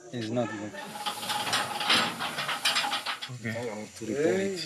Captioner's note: train parts banging